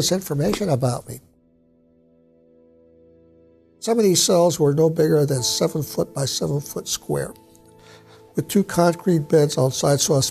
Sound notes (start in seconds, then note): none